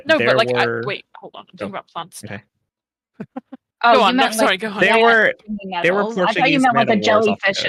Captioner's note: chuckles